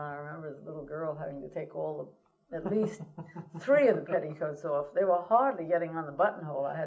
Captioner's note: laughter